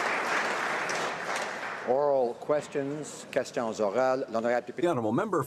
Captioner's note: applause